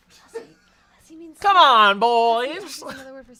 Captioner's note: whispering